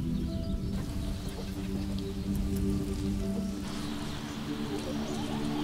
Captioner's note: birds chirp softly in distance